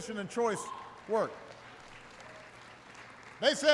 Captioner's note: applause